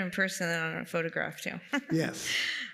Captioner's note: laughs